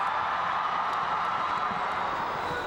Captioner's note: cheering